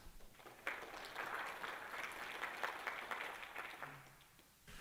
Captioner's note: applause